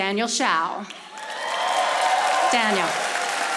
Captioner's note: audience applauding